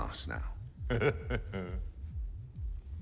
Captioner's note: chuckles